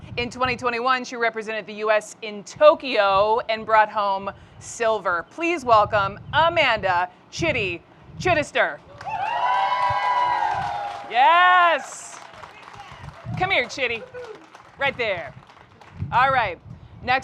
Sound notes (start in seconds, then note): 8.9 crowd cheering; 11.6 crowd clapping